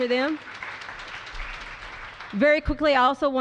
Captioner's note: applause